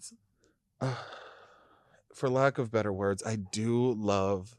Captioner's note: groans